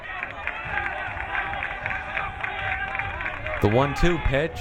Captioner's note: crowd cheering